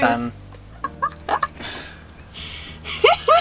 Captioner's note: chuckles